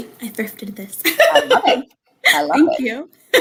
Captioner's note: laughter